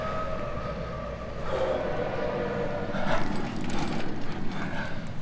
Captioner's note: train horn sounding; intense breathing